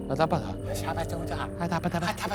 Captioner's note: speaking gibberish; conversing gibberish